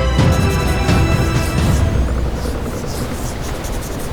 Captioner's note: scribbling